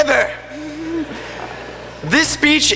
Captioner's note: laughter